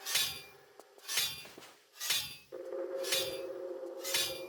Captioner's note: sound of knives, repetitive